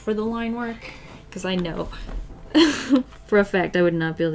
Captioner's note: laughs